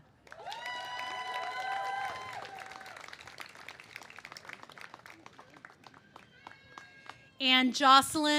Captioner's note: cheers and applause